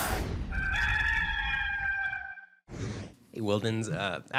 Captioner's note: rooster crowing